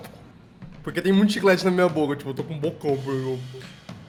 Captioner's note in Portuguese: falando de boca cheia